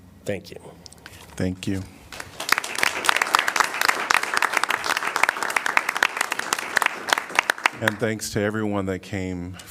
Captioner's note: applause